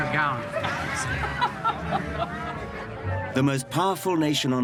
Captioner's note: Смех